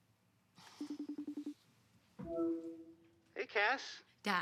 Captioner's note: call dialing